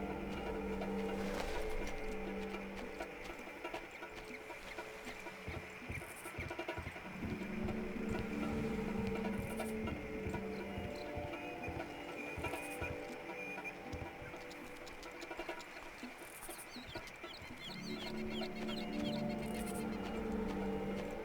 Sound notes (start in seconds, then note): 0.0 tense music; 6.8 birds chirping; 21.0 tense music